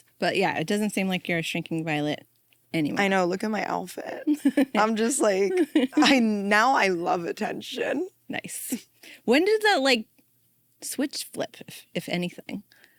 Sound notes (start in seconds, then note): 4.2 laughs